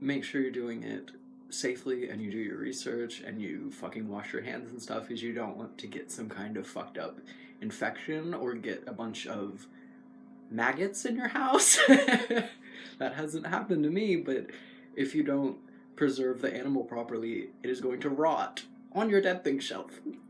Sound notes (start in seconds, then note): 11.5 laugh